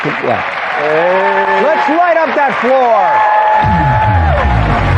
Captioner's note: cheering